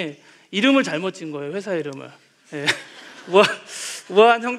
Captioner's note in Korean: 웃음